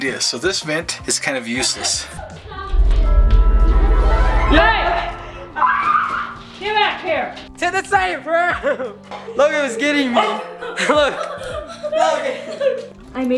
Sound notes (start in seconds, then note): 5.7 screaming; 11.4 laughing